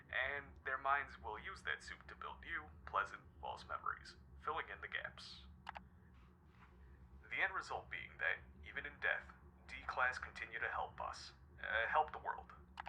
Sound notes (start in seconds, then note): 5.6 clicking